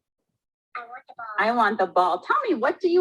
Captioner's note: automated Voice